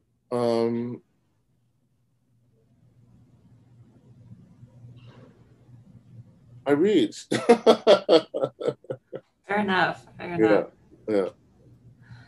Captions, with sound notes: I read (laughs). - Fair enough.